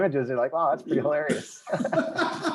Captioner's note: laughing